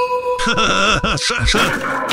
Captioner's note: manic laughter